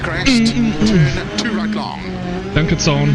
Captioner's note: moans